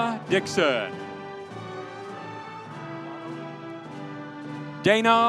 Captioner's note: audience cheering